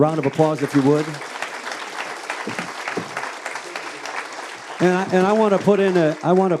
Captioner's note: audience applauding